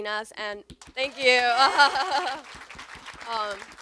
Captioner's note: everyone applauds; laughs